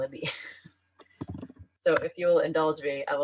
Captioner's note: laughs